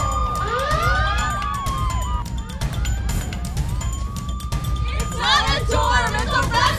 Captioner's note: sirens